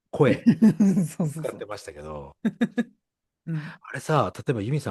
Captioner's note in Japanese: 笑い